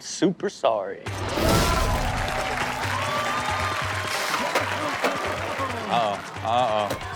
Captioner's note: audience cheers; upbeat music